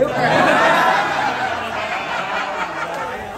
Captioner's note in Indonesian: tertawa